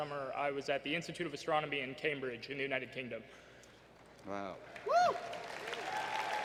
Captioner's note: applause